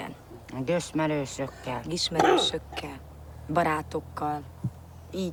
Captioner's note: speaking in foreign language